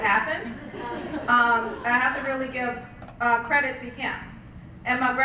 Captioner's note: laugh